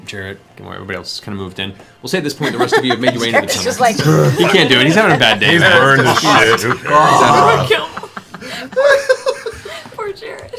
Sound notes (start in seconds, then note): 3.3 laughs